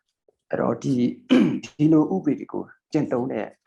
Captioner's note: speaking burmese